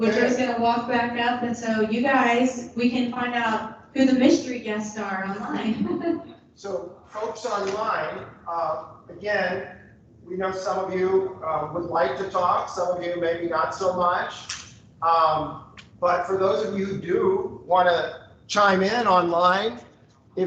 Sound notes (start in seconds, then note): 5.3 laughs